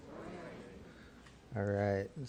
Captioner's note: crowd